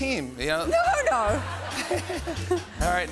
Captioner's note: laughter